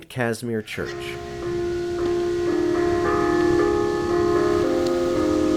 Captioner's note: chimes ringing